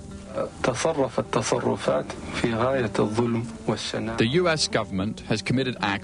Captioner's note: O.B.J. Speaking in Arabic